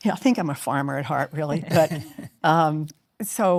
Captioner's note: chuckles